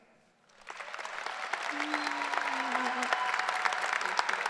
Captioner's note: audience applause